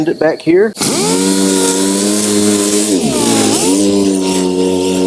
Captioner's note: DA sander buzzing